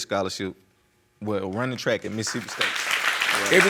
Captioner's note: applause